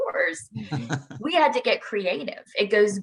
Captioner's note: laughing